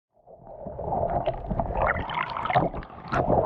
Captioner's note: water bubbling